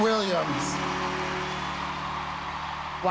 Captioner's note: crowd cheering